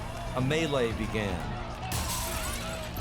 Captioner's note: crowd shouting in panic